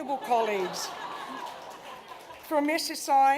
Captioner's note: laughter